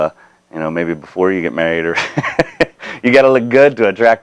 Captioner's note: laughing